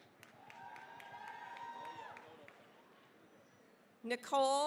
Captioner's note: cheering, applause